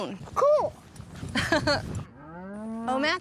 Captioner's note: laughs